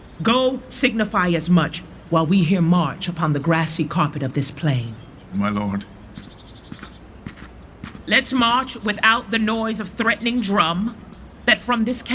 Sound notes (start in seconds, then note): 5.1 footsteps receding; 6.6 birds chirping